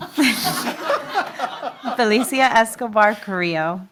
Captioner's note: laughter